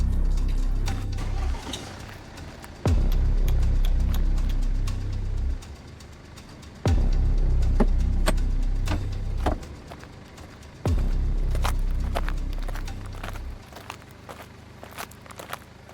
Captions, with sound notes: (car engine humming) - Tsk tsk, tsk tsk, tsk tsk. (doors banging) (dramatic music)